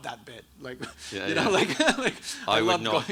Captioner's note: laughs